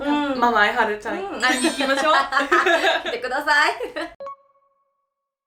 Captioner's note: laughs